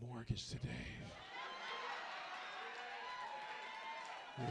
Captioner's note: audience cheers